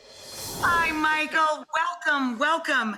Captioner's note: air whooshes